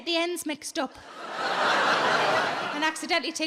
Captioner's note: audience laughing